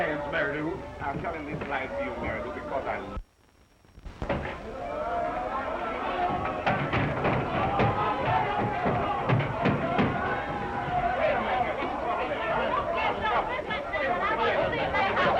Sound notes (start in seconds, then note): 4.4 all chattering; 4.6 banging on door; 12.5 all shouting